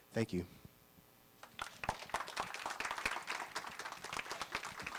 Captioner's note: applause